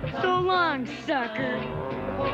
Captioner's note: growling